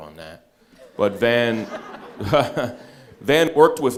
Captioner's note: all laughing